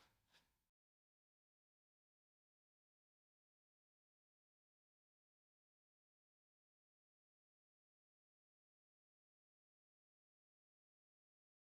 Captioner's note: silence